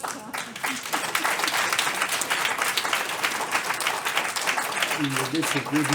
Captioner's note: applause